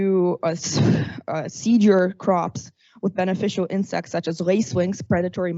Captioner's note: exhales